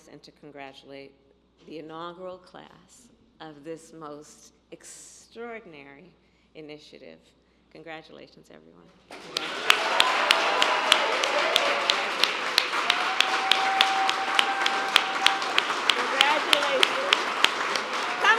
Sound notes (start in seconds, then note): 9.1 applause